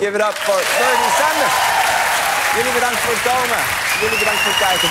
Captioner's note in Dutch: applaus